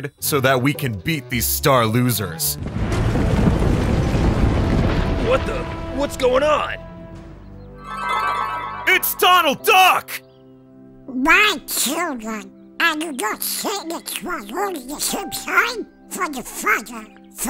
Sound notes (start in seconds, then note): 2.6 thunder roaring; 7.7 upbeat calm music; 12.8 Donald chattering